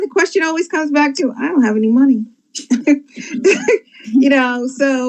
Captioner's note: laughs